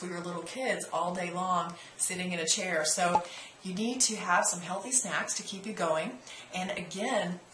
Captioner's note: pop